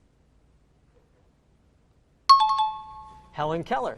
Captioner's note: dinging